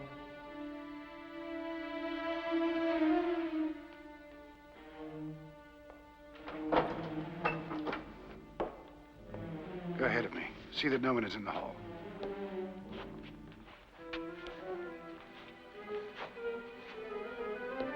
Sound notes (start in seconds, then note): 0.0 suspenseful music; 0.3 ominous music; 6.3 door opens; 12.6 suspenseful music